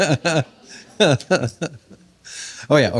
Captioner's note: laughter